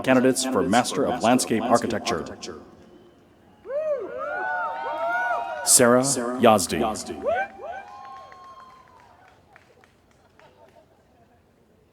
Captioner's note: cheering